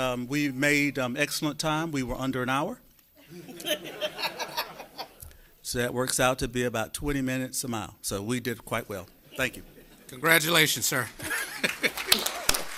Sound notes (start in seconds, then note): 7.6 laughter